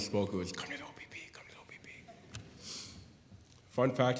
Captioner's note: whispering